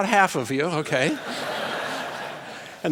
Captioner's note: laughter